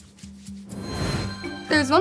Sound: air twinkles

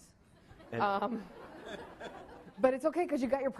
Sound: laughing

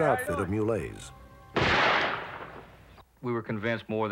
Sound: gunshot

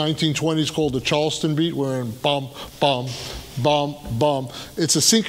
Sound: hums rhythmically

